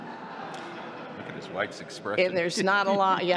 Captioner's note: laughter